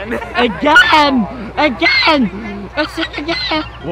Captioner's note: voice cracking